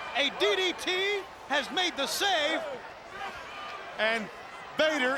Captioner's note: crowd clamoring